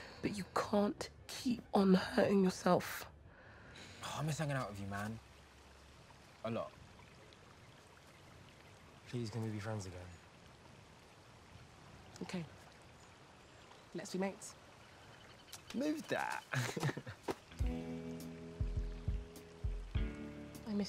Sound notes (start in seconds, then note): 16.2 chuckles; 17.4 mellow music